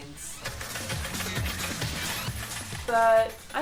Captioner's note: coins tinging